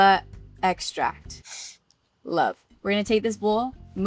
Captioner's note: sniffs